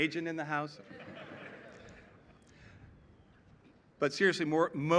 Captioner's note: laughter